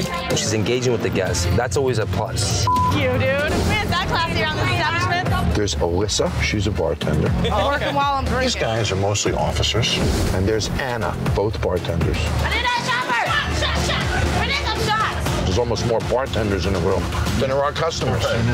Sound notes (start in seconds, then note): 2.6 beep; 12.5 shouting